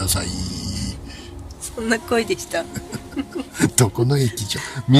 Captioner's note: laughs